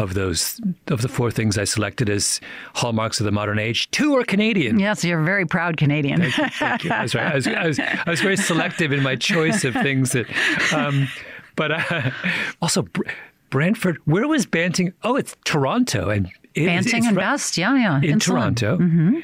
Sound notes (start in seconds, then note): 6.2 laughs; 10.2 chuckles